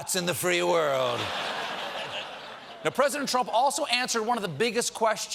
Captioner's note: laughter